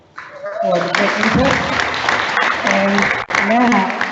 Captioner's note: audience applauds